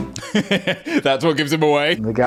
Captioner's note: laughing